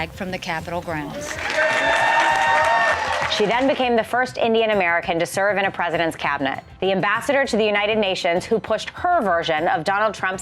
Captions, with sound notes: from the Capitol grounds. [ Cheers and applause ] >> She then became the first Indian-American to serve in a president's cabinet. The ambassador to the United Nations who pushed her version of Donald Trump's